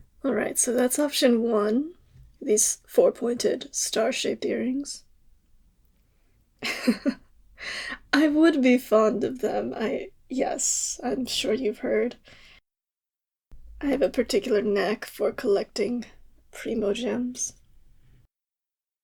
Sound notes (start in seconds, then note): 6.6 laugh